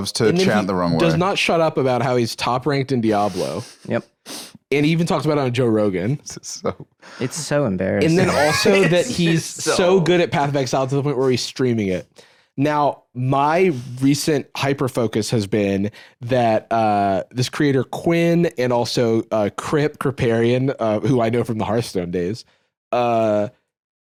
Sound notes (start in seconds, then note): 8.0 laughing